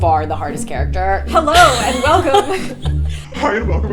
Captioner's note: Lilla laughing